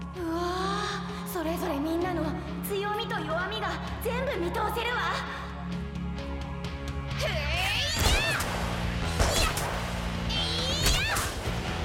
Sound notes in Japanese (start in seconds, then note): none